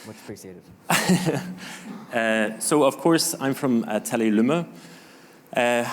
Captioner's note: chuckling